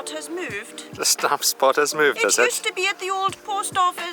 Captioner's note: in Scottish highlands accent; also in Scottish highlands accent